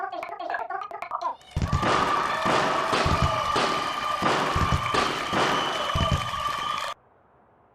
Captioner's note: cue crowd celebration with fireworks